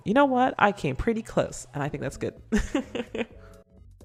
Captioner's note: laughs